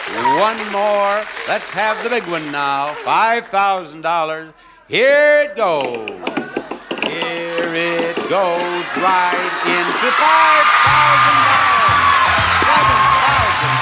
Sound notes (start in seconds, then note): 10.6 bell dinging; 11.4 squealing; 12.1 audience applauding; 12.1 upbeat music